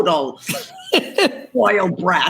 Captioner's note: Gary laughs